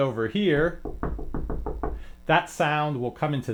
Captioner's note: knocking